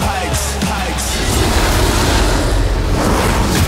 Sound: roars; music crescendos

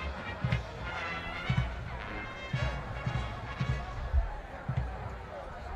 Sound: spectators chattering

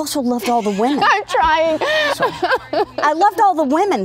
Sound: laughing

